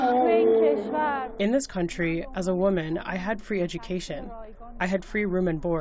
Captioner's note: through translator